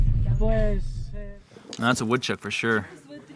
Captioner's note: speaking in foreign language